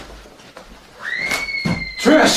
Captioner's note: screaming